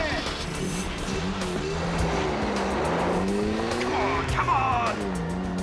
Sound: engine revving

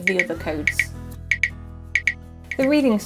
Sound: click Sounds

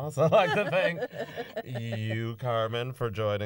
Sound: laughter

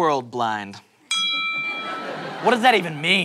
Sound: ding

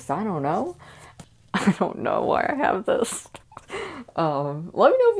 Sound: laughing

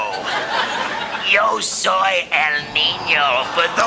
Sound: foreign language spoken

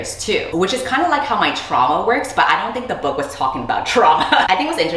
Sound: laughs

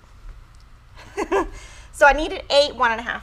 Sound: laughs

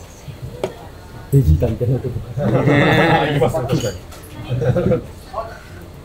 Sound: laughs

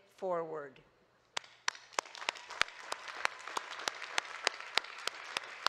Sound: audience clapping

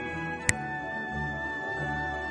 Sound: finger snap

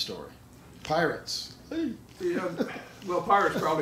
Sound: laughs

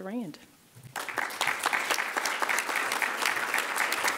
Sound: clapping

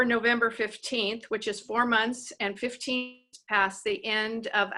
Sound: voice distorted

